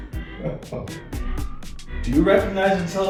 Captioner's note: more awkward laughter